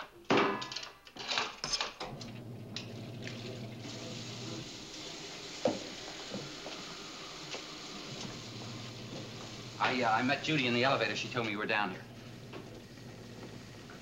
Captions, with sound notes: (machine starts) I met Judy in the elevator. She told me you were down here.